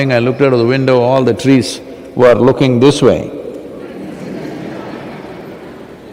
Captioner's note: laughter